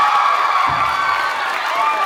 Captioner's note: cheers; thunk; cheers